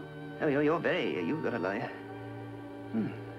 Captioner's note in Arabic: يتلعثم